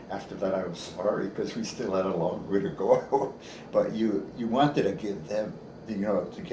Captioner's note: chuckles